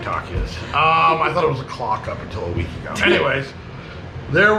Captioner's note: chuckling